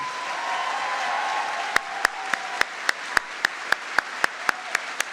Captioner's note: audience applauding